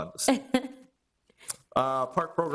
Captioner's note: laughing